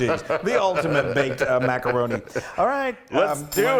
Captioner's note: laugh